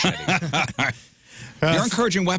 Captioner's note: laughing